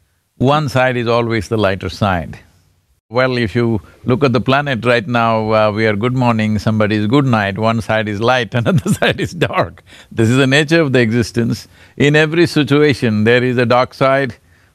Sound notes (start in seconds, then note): 8.6 laughs